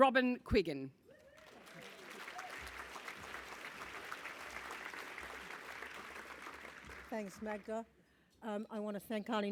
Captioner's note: applause